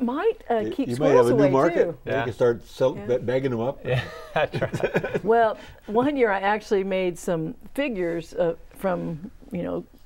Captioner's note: laughing